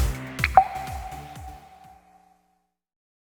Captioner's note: upbeat music returns; water dripping